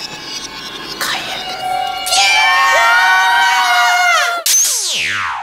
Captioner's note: screams